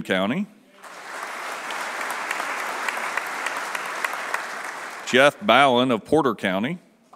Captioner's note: applause